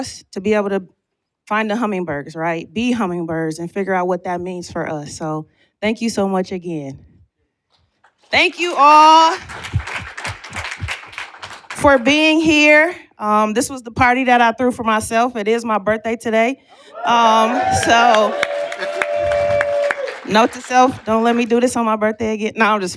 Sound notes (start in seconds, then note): 8.0 applause; 16.8 cheers